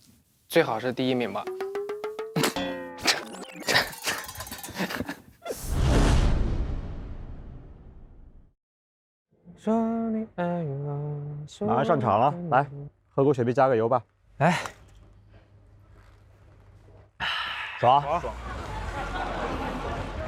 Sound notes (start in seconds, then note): 3.5 immediately breaks into laughter